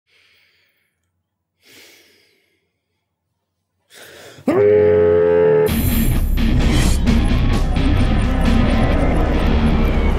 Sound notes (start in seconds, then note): 4.4 Zac screaming into pillow; 5.6 heavy metal music